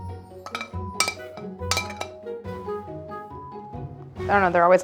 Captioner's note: happy tune; plate scrapping